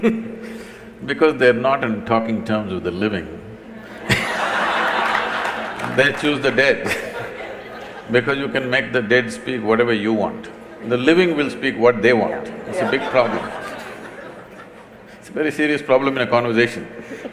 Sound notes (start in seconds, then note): 3.8 laughter/Applause; 7.4 laughter; 12.5 laughter